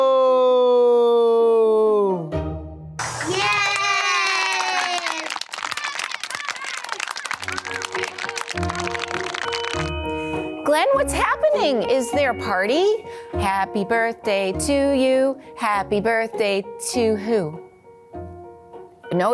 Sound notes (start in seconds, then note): 7.0 children clapping and chatting; 8.5 gentle music